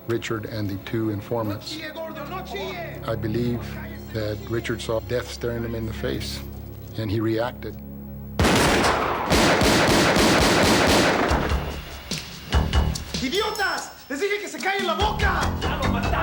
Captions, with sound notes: Richard and the two informants. I believe that Richard saw death staring him in the face, and he reacted. [GUNSHOTS] [SPEAKING SPANISH]